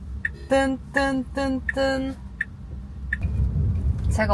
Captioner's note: Tron-esque turn signal sound